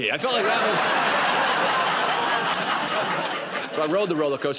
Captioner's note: laughter